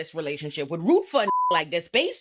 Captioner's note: beep